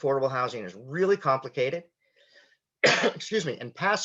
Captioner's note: clears throat